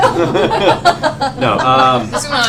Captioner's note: laughter